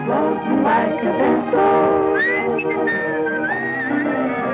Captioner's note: singing; whistling; singing